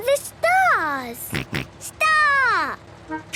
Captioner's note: snort